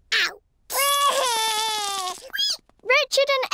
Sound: cries

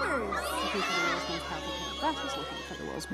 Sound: kids cheering

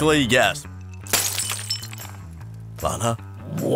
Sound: glass breaks

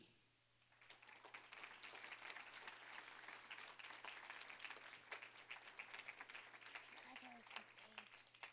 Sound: applause

